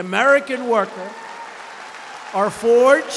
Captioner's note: applause